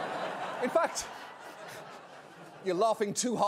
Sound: audience member laughing loudly

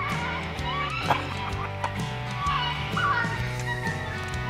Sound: laughs

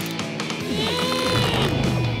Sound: grunting

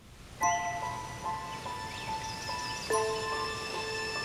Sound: birds singing

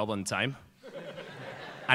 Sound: laughter

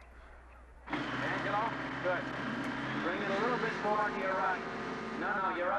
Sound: Phil on megaphone

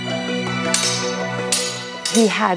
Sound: swords clang

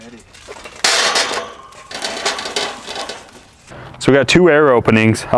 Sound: metal clanging

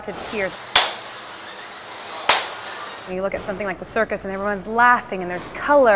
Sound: slapping

